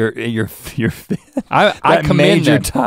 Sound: chuckles

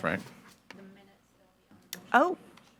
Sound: faintly speaking

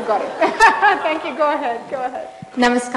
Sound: laughs

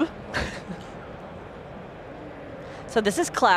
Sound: giggles

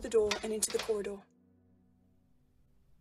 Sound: door closes

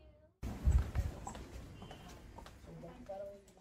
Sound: walking

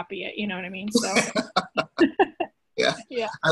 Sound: both laughing

